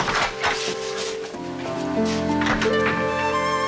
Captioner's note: door closes